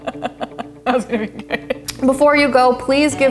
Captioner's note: laughing